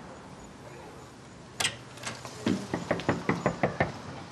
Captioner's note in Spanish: ruido al abrir una puerta